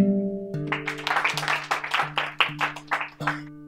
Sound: clapping

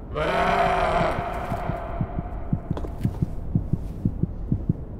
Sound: rapid heartbeat

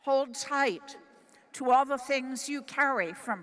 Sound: none

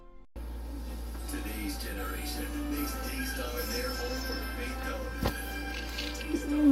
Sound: on TV

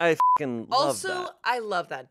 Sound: beep

